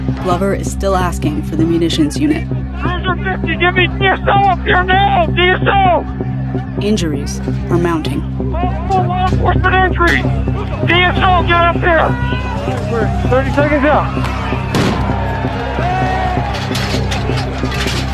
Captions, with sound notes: Glover is still asking for the munitions unit. Injuries were mounting. [bang]